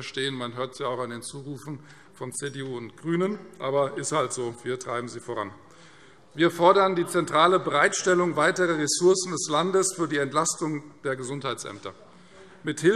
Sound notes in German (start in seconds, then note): none